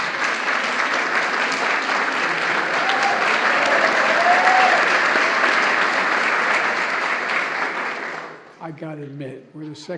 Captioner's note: applause